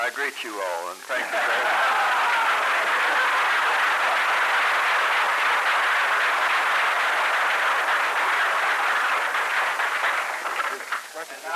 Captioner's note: laughter, applause